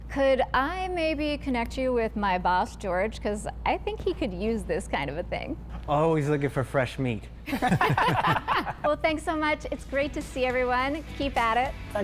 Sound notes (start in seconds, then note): 7.5 all laughing